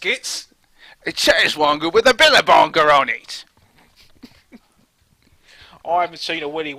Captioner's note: laughter